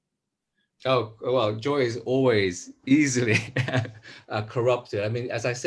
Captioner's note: laughs